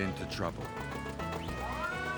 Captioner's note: whirring